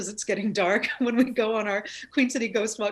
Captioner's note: laughs